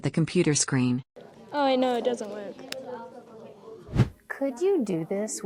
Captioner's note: whoosh